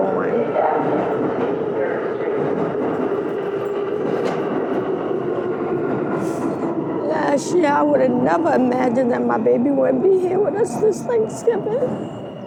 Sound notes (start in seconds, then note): 1.1 Trem se aproximando